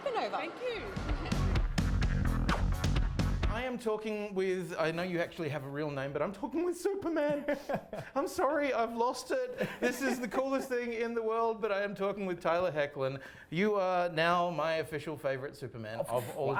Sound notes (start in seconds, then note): 0.6 rock music; 7.2 Tyler laughs